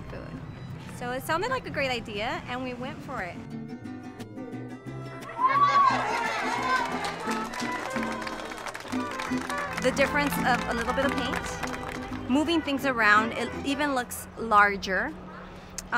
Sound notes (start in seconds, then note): 4.5 mariachi band playing music; 5.4 people applauding and cheering